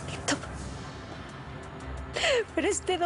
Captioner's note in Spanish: Sollozos